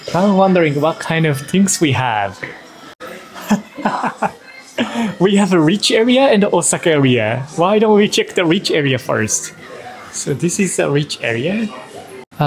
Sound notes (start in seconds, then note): 3.2 laughs